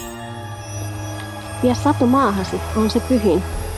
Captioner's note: speaks in Muinein language